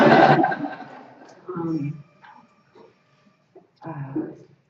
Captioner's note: laughter